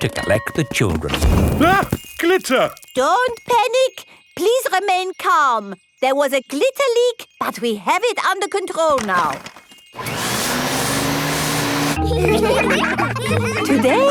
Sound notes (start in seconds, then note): 9.9 whirring; 12.0 all laughing